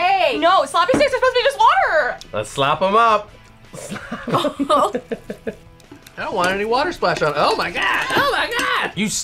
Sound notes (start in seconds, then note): 3.7 both laugh